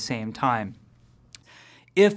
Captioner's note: lip smack